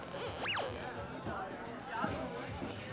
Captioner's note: electronic sweep